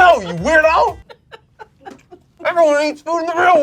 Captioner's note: laughs